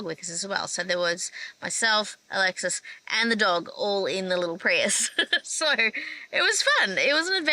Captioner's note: laughs